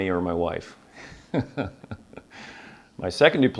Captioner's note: laughs